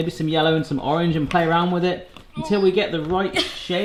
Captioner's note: groaning